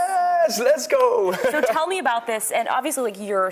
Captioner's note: chuckling